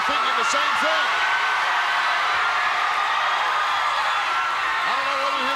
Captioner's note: audience cheering